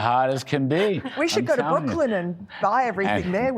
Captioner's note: laughter